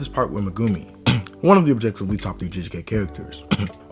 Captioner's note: cough